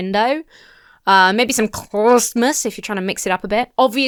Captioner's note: mumbles